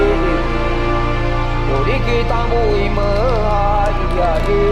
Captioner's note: chanting